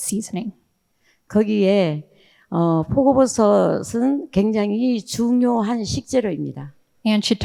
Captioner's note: speaking in foreign language